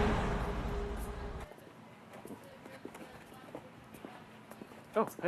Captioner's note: footsteps